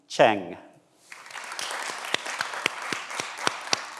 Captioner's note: everyone applauds